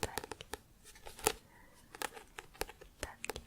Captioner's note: tapping on book